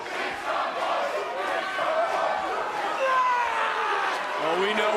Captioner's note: crowd chants "big strong boi"